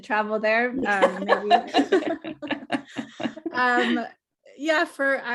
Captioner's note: both laughing